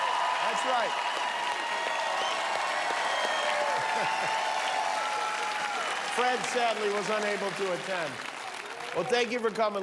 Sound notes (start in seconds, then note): 2.6 cheers and applause